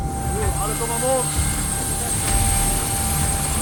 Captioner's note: speaking Polish; helicopter blades whirring